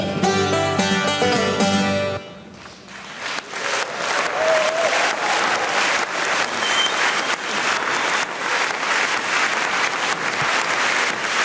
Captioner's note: applause